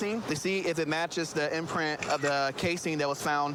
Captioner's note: camera app clicks